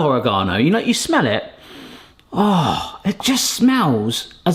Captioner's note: groans